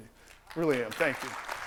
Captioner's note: applause